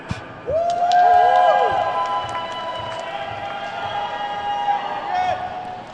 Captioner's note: attendees whooping and clapping